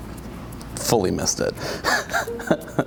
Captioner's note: chuckles